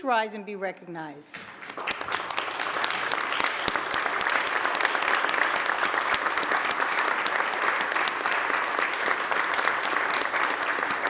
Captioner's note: applause